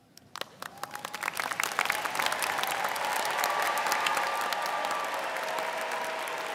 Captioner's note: students cheering and applauding